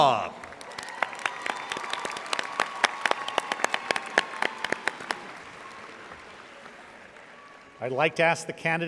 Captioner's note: audience applauding